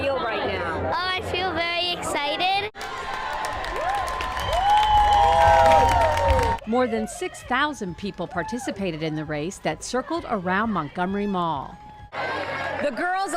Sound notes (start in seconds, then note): 5.9 cheers